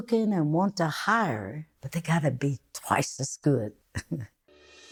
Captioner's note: small laugh